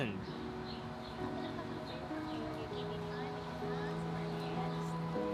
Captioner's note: gently muttering